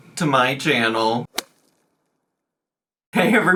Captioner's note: bat swinging